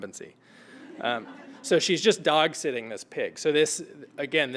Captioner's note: laugh